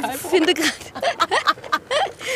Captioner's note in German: Lachen